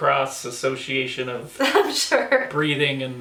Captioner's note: laughs